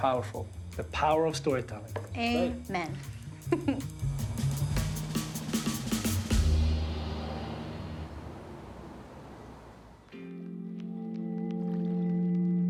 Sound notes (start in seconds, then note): 3.5 laughs; 10.1 down-tempo music plays